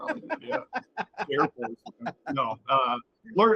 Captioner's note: laughing